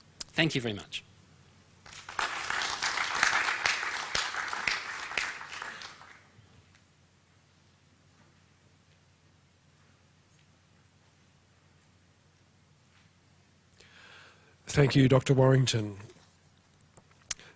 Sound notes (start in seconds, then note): 2.5 pause